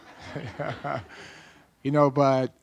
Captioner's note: laughing